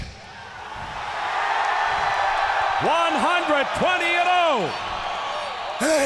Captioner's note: applause